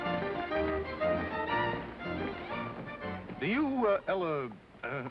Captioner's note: in deep voice